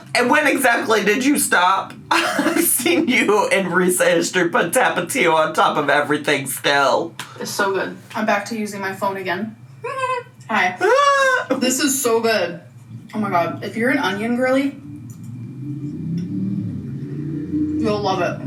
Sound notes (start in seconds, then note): 10.8 giggles; 11.7 mimics giggle